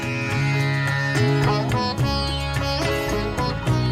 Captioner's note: none